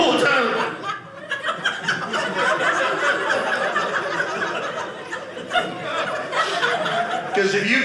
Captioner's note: audience laughing